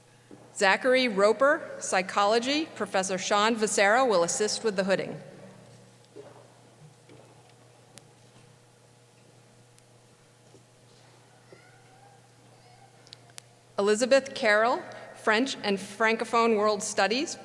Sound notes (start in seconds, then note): none